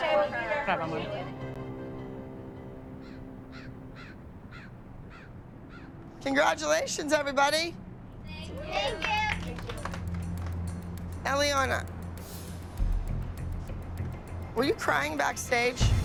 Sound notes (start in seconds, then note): 3.9 bird squawking; 8.6 applause